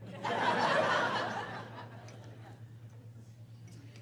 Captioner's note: laughing